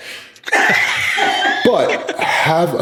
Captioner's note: laughs